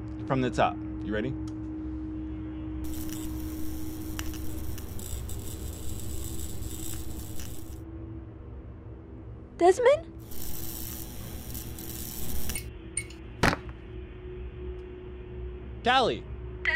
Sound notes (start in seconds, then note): 2.8 electric humming; 10.1 electric humming